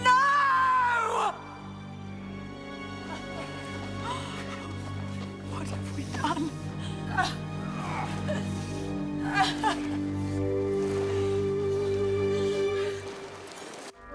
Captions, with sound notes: NO! (crying) WHAT HAVE WE DONE? (both grunting)